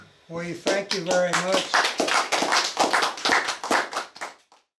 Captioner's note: attendees applauding